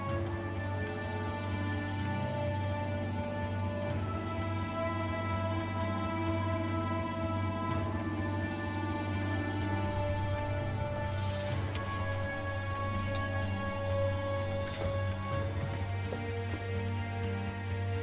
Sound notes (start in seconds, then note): 9.6 chains rattling